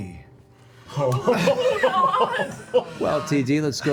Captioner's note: laughter